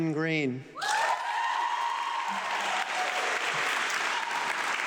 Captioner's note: audience clapping